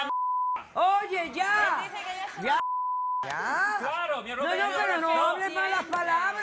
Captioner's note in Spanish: Bip